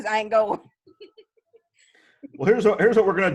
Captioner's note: giggling